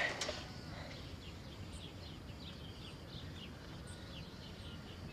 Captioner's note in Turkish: Kuş cıvıltısı sesleri